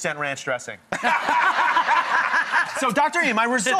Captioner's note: audience laughs